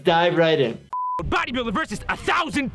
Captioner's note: beep